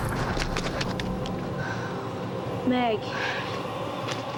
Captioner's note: explosion echoes